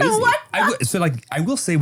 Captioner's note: laughing